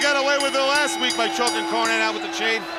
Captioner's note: bell ringing